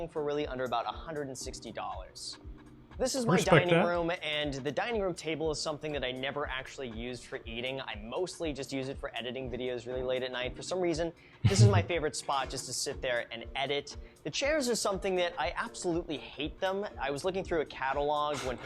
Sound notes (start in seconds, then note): 11.3 laughs